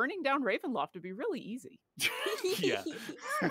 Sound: laughs

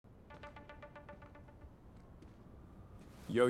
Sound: phone rings

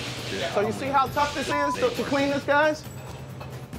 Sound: beep

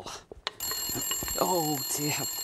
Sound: phone rings

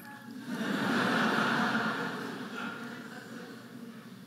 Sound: audience laughing

